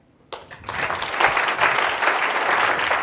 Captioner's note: applause